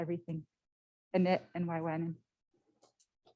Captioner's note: foreign language